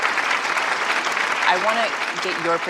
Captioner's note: applause